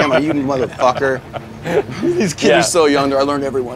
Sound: laughs

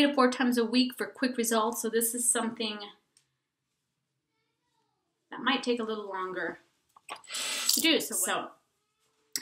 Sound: water running

